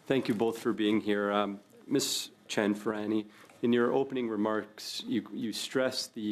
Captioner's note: speaking French